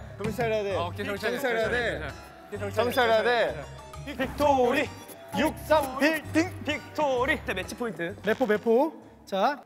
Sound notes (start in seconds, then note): 4.2 annoying cheer